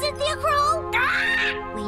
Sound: squawking

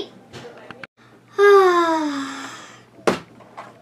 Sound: long sigh

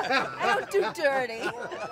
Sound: laughter

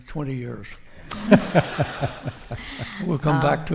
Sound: audience laughing

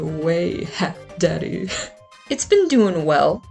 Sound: laughs

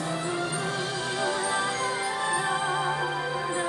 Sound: humming

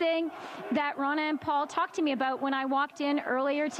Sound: chanting

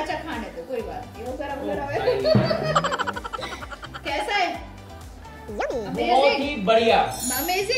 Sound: laughter

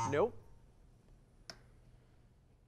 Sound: bell ringing

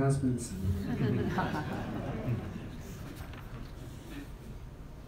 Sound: laugh

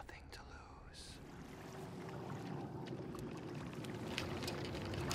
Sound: waves lapping

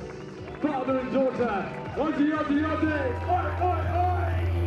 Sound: non-english speech

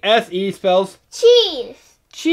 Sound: voiceover

